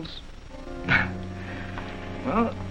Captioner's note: chuckles